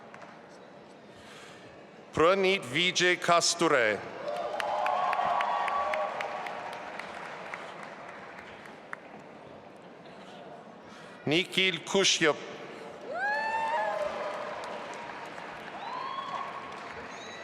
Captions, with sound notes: Pranit Vijay Kasture. (audience applauding and cheering) Nikhil Kashyap. (audience applauding)